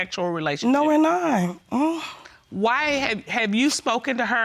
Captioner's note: scoffs